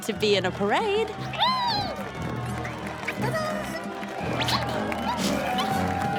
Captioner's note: caterpillar noises